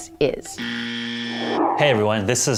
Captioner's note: buzzer going off